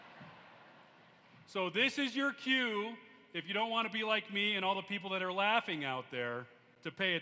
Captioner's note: laughter